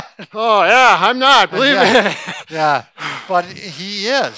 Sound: laughs

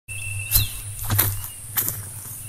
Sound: footsteps

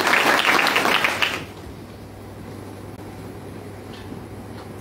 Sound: applause

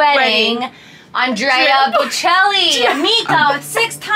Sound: cries

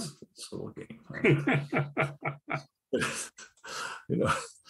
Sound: laughs

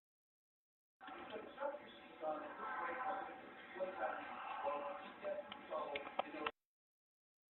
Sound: indistinct chattering amid camera noises; silence

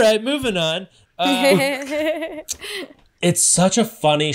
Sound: laughs

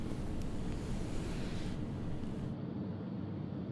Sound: bed sheets rustling

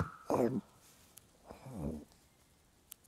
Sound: sneezing; growling

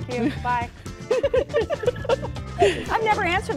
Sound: laughter

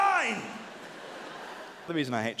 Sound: audience laughing

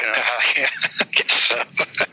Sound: laughing

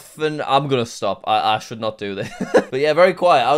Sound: stammering; laughs

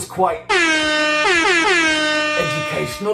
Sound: klaxon

